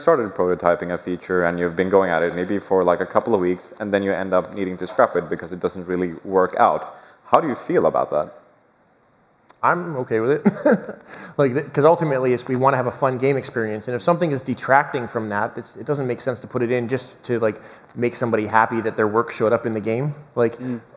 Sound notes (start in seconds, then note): 10.4 laughs